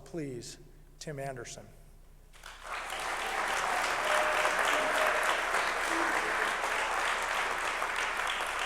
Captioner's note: applause